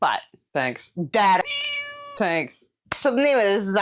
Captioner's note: meow